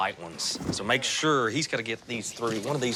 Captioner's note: none